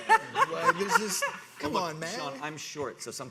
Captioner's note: audience laughing